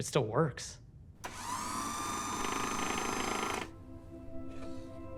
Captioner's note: mechanical sound